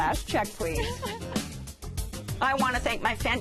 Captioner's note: laughs